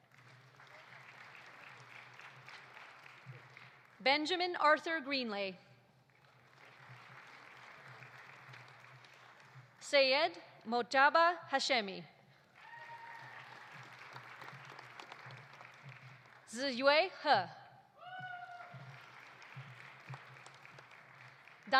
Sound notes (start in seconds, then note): 0.0 audience applauding; 6.1 audience applauding; 12.5 audience applauding; 12.5 audience cheering; 18.0 audience cheering; 18.0 audience applauding